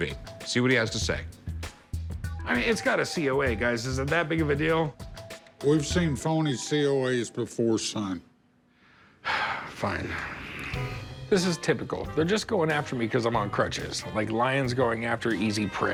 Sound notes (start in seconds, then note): 9.2 sighs